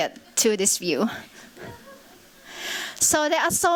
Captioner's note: chuckling